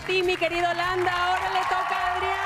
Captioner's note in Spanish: vítores